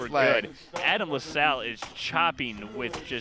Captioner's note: laughing